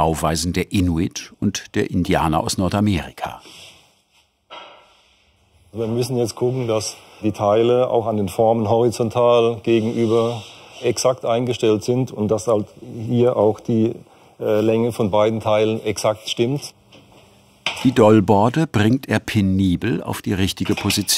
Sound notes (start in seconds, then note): none